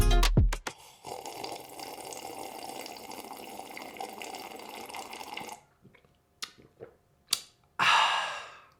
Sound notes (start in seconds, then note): 0.7 man sipping; 6.4 lips smacking